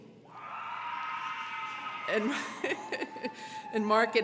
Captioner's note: crowd cheering; laughs